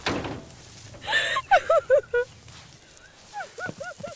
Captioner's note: Door Closes; Sobbing